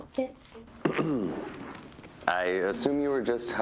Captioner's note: clears throat